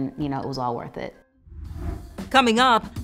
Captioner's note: air whooshes